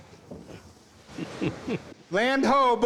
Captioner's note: chuckles